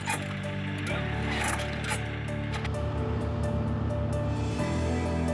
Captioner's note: gurney creaks; upbeat music